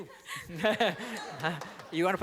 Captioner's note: laughter